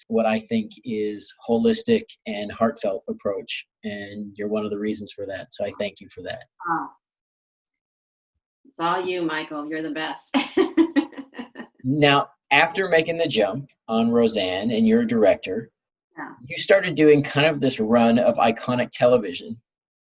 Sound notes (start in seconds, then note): 10.9 laughs